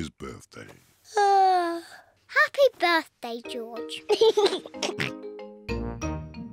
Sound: yawns; laughs and oinks

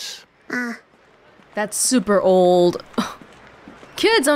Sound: scoffs

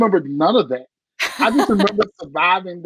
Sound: laughter

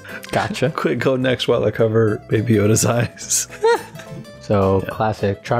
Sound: laughter

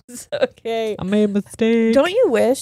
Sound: laughing

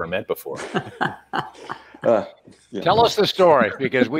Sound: laughing

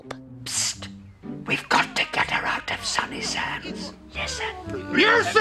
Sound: whisper

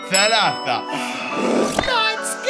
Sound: gasps

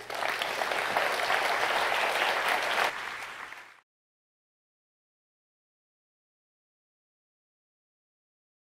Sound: applause

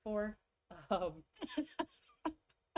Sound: laughs

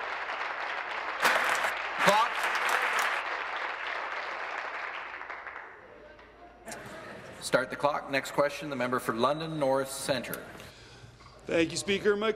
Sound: applause

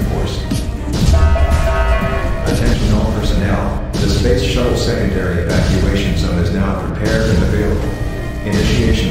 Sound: announcement Chime

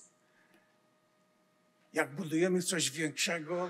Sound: foreign language

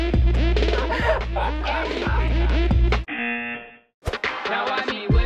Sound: buzzer; chuckles

